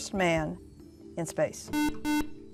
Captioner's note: buzzer